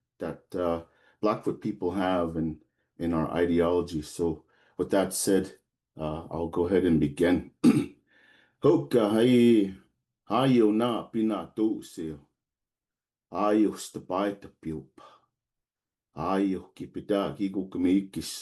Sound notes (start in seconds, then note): 7.6 clears throat; 8.9 speaking in his Native language